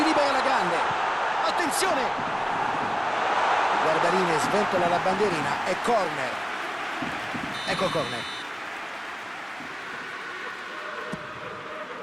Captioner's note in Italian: Applauso